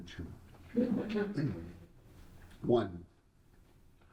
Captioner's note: audience laughing